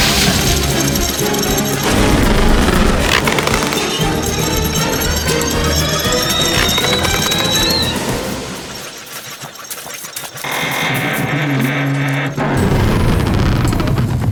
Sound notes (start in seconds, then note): 0.3 rattling; 2.3 creaking; 4.3 rattling; 6.3 music intensifies; 10.5 creaking